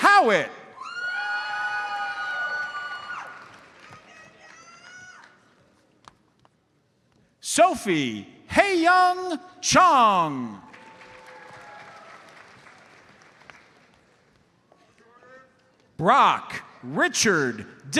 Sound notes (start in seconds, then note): 1.0 audience cheers and applauds; 10.6 audience applauds